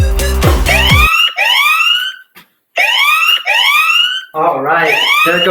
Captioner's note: alarm ringing